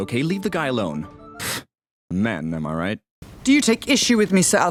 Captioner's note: sigh